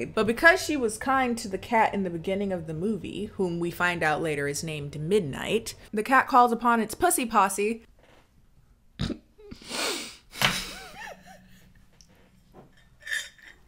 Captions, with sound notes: but because she was kind to the cat in the beginning of the movie, whom we find out later is named Midnight, the cat calls upon its pussy posse. (laughs)